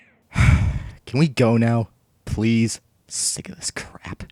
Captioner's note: sigh